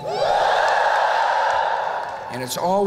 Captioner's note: whoop!